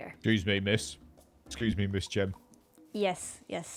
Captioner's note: deep voice